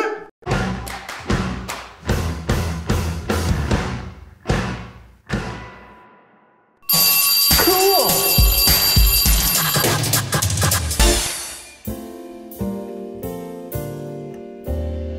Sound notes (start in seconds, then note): 0.2 intro rock music; 6.8 school bell rings; 11.8 soulful piano music